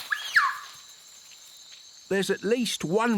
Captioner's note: puma calls